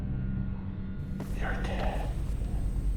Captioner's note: scary voice